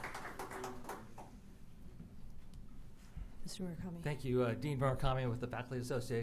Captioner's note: applause